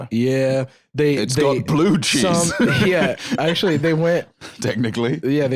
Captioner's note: laughs